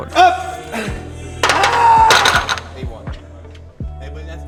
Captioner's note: grunts; weights clatter